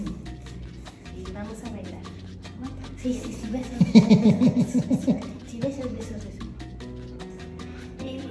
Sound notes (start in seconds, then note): 3.8 laughing